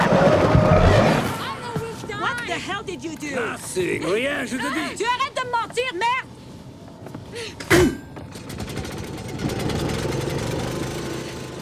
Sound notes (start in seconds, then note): 5.0 speaking French